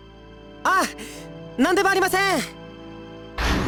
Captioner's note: shout